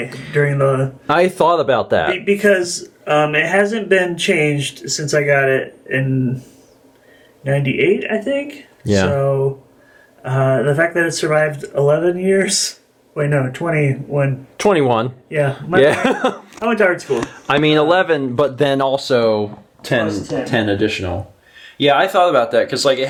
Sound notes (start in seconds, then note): 0.0 chuckles; 15.8 chuckle